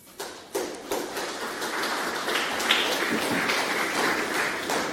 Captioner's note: audience clapping